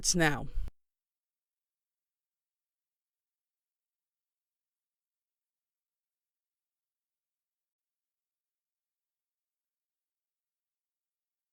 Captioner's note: silence